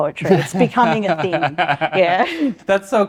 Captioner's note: both laughing